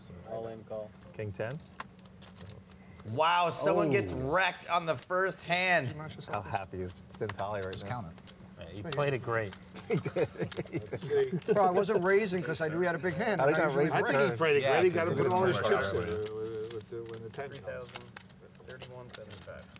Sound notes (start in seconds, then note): 9.8 laughing